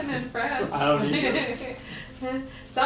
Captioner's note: laughs